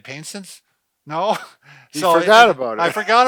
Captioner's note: laughs